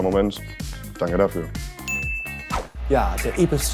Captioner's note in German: Klingeln